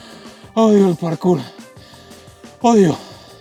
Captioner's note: gasping